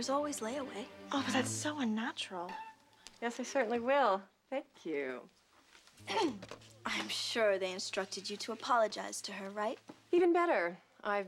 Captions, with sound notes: THERE'S ALWAYS LAWAYAY. OH, BUT THAT'S SO UNNATURAL. YES. I CERTAINLY LLWI. THANK YOU. ( clears toahrt ) I AM SURE THEY INSTRUCTED YOU TO APOLOGIZE TO HER, RIGHT? EVEN BETTER.